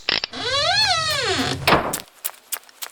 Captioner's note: squeaking; slam; footsteps